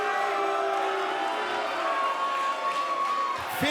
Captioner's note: cheers & applause